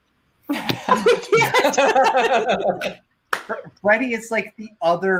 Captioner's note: laugh